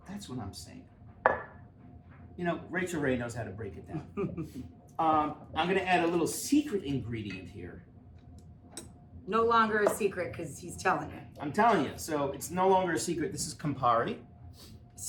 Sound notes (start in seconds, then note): 4.1 chuckle